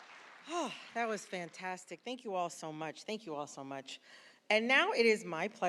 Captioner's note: applause